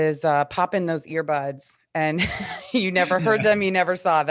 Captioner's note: chuckles